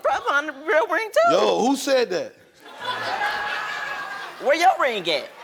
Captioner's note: audience laughs